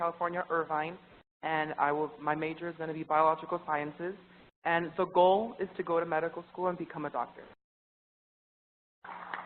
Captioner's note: applause